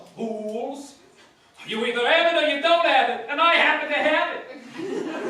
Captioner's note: brooklyn accent